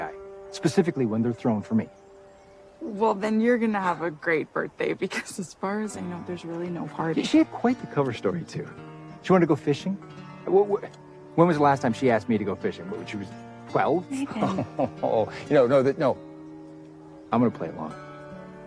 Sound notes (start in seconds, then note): 14.2 laughs